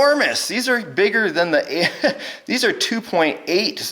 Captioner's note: laughs